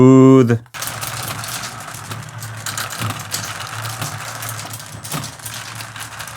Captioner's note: marbles rolling